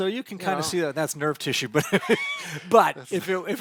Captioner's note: laughs